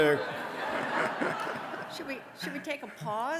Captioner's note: audience laughing